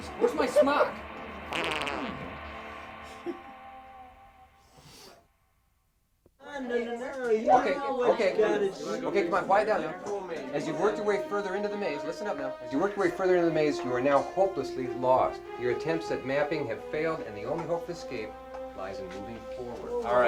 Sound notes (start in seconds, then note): 1.5 Hanee chuckles and farts; 7.5 group chattering